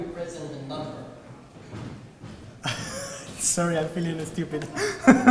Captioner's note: laugh